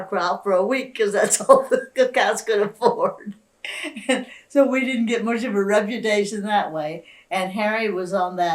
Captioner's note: laughs